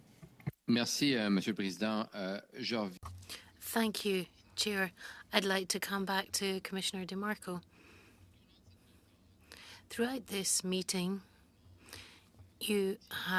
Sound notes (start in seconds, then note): 9.7 speaking French